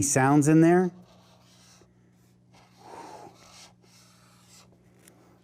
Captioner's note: marker squeaking